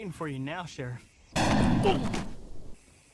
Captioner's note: gunshot